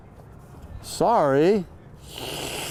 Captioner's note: slurps